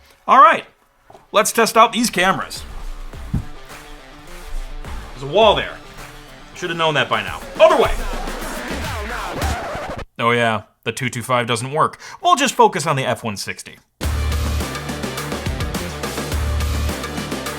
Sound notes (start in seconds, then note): 2.0 rock music builds; 9.3 record scratching; 14.0 rock music continues